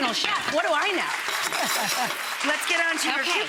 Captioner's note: audience applauding